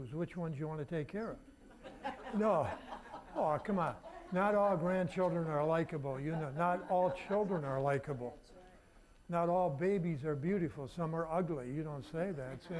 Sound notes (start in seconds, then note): 1.7 audience laughing